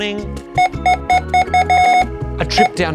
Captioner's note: scanner beeping repeatedly